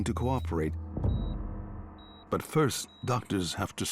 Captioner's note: steady beep